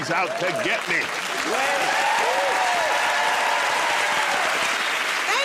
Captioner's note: cheers and applause